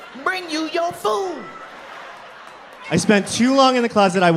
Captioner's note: crowd laughs